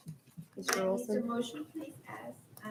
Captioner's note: hushed speaking